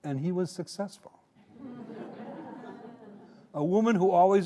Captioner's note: audience laughing